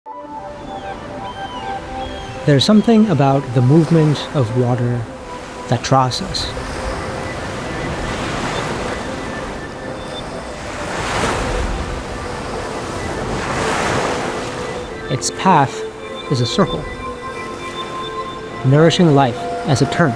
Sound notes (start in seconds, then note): 0.7 birds chirping; 0.7 gentle music